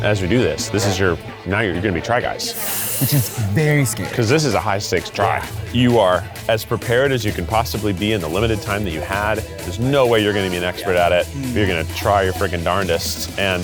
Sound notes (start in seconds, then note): 2.5 inhales